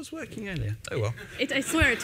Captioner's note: laughter